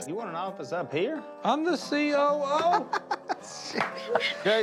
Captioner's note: Willie laughing